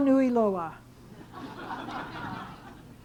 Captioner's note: chuckling